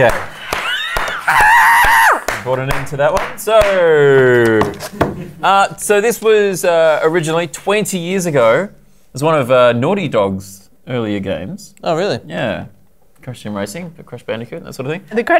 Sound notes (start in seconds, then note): 0.4 claps; 1.3 screeches